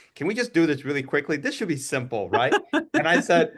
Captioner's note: laugh